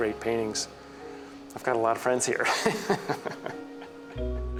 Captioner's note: laughs